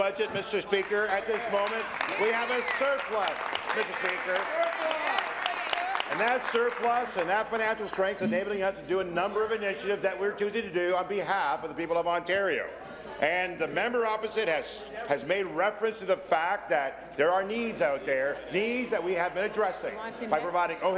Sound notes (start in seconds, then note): 5.5 applause